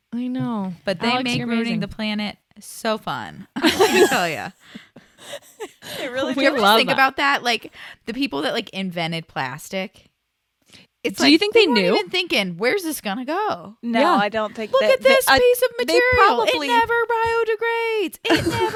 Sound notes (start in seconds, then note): 3.6 laughs